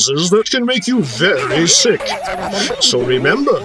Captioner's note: high-pitched whining sound